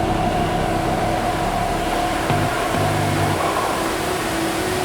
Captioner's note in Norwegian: suset av vann og bakgrunnsmusikk